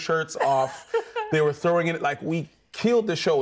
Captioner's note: laughs